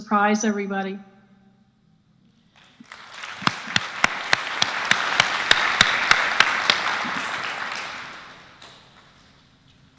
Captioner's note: applause